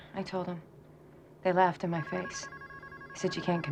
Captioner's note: phone ringing